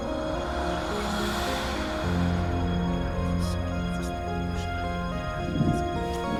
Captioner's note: dark, menacing music; disembodied whispers